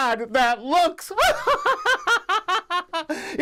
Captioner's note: laughs